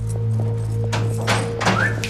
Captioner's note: guard whistles